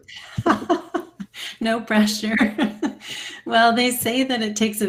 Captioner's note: laughs